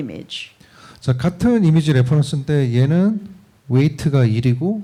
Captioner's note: speaking korean